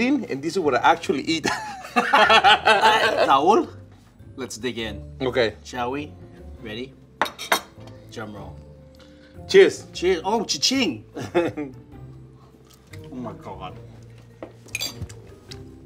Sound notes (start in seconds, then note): 1.4 men laugh; 11.2 laughs